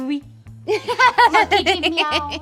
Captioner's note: laughing